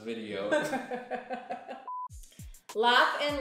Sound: laughter

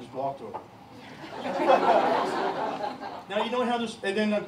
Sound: laughter

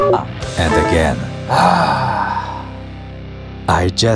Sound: sigh

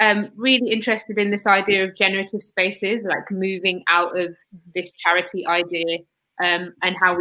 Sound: erm

